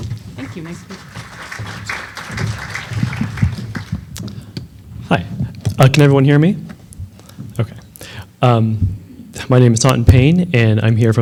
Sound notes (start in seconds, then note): 0.3 applause